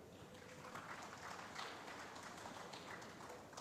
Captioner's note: applause